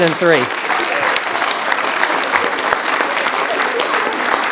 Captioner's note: audience applauds